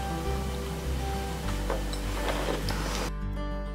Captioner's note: drinking